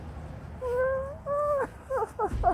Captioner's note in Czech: leží na zemi brečí; fňuká; fňuká a plazí se pryč